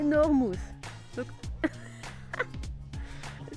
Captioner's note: laughing